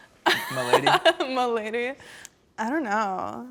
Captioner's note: laughs